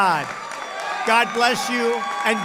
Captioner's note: applause